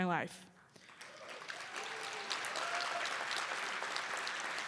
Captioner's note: cheers and applause